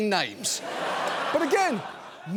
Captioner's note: audience laughing